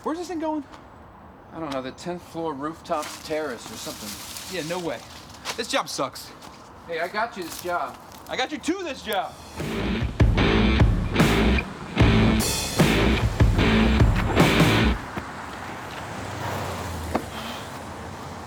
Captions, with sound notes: Where's this thing going? - I don't know, the 10th floor rooftop terrace or something. (leaves rustle) - Yeah, no way. This job sucks. - Hey, I got you this job. - I got you to this job. (rock music) (cars passing)